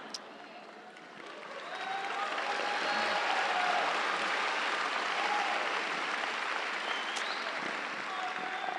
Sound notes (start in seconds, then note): 1.1 audience applauds; 1.5 audience cheers